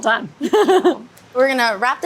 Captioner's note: laughing